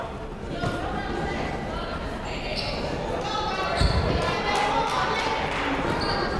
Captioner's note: people shouting in the crowd